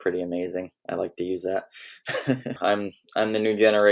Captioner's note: laughs